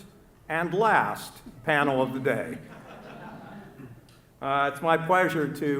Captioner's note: laughter